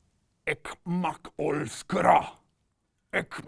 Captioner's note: alien sounds